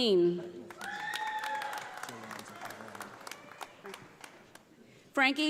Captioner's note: audience applauding